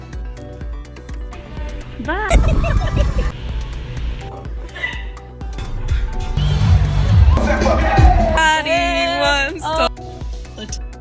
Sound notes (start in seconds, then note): 2.1 laughing; 5.1 upbeat music